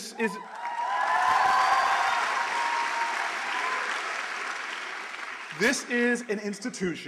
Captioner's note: cheers, applause